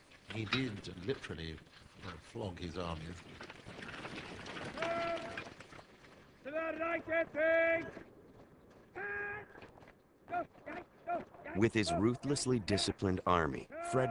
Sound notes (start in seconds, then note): 4.4 shouting